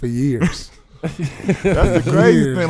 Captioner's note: laughing